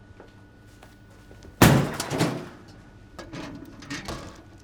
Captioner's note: banging